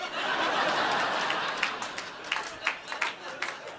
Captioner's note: audience laughing